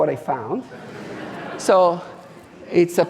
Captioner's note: audience laughing